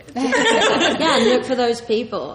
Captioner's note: laughs